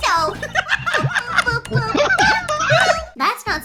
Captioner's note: laughter